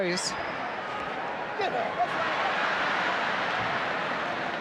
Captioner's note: crowd yelling